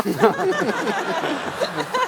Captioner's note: laughter